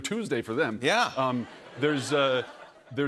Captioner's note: laughter